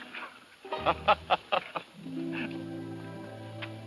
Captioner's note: laughs